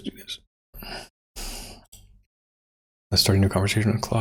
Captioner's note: blank Audio